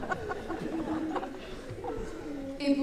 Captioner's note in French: rires